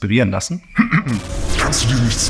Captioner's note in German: Glitch